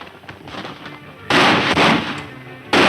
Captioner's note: horse hoof beats; loud gunshots